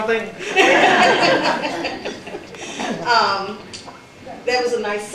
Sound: laughter

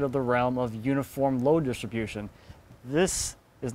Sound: none

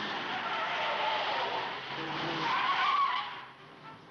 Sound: tires squealing

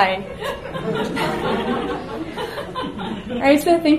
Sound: audience laughs

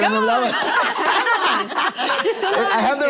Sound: laughter

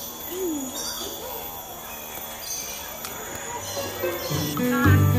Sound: bird chirps

